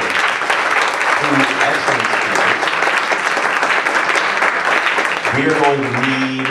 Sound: applause

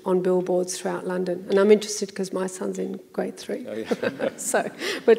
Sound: laughs

